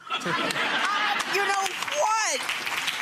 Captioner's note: audience laughing and clapping